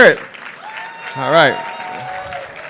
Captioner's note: applause